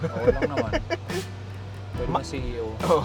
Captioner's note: laughs